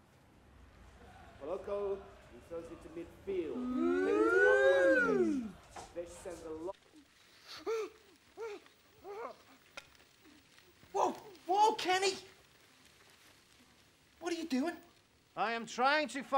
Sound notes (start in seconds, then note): 6.5 man whimpers